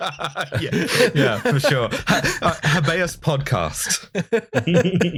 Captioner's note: laughter